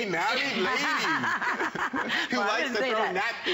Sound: laughter

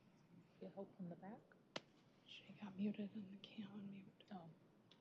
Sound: indistinct chatter

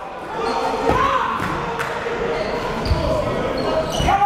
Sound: fans yelling

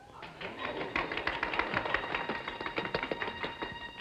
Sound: applause

